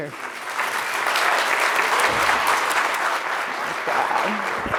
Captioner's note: audience clapping